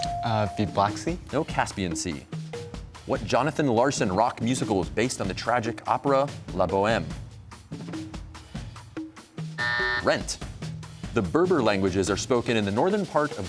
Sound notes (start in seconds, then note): 9.6 buzzer sounds